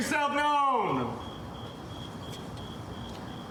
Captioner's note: crickets chirping